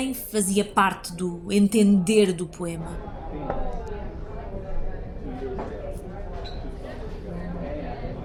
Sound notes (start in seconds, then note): 4.8 noise of people talking in a cafe